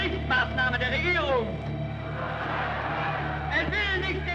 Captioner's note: crowd cheers